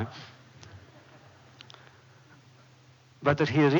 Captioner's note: laughter